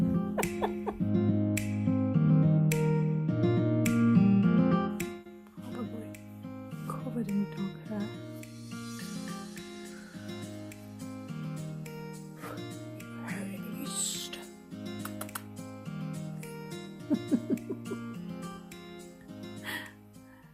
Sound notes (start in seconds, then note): 0.0 kissy kissy noises; 0.2 haha; 9.6 blowing; 14.8 kiss kiss